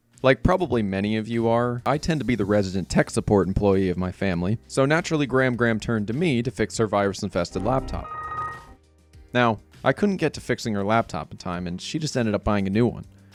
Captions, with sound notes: Like probably many of you are, I tend to be the resident tech support employee of my family so naturally Gram Gram turned to me to fix her virus infested laptop.*Windows Error Noises* Now, I couldn't get to fixing her laptop in time and she just ended up buying a new one.